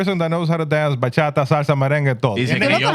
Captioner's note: speaking Spanish